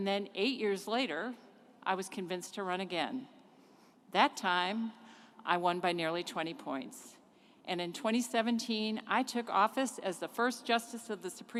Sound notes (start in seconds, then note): none